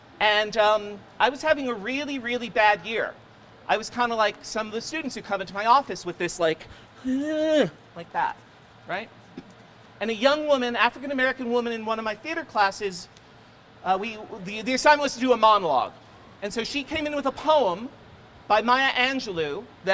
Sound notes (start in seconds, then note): 7.0 groaning